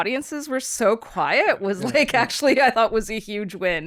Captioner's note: laughs